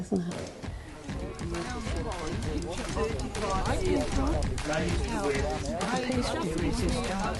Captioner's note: upbeat music; people chattering